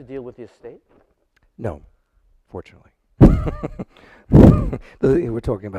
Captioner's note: laughs